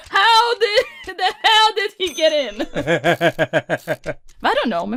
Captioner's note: laughs; laughs